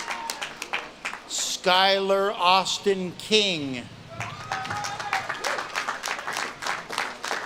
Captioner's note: audience claps and cheers